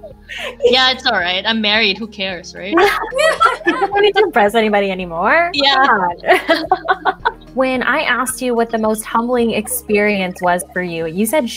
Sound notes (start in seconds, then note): 2.7 laughs